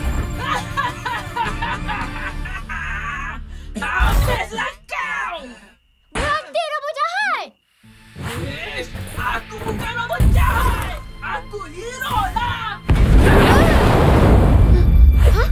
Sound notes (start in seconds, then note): 6.0 sharp smack